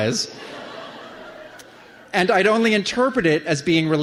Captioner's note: laughter